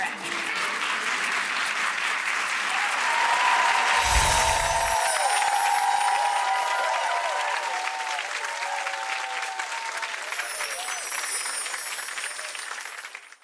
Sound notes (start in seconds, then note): 0.2 audience clapping; 3.6 cheering and clapping; 3.9 bells chiming; 6.9 audience cheering and clapping; 10.0 bells chiming